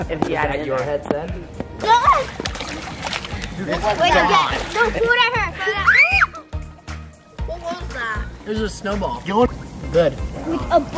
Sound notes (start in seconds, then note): 0.4 overlapping chatter; 5.7 shrieks